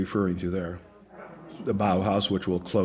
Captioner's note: audience mumbles